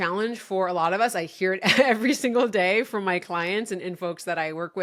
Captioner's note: laughing